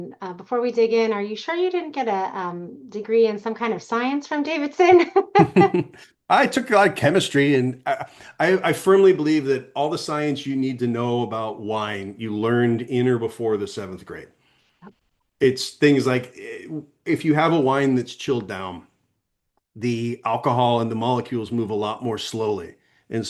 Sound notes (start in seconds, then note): 4.8 laughs